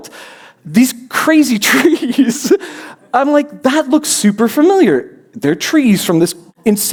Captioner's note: laughs